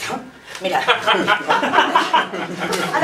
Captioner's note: laughs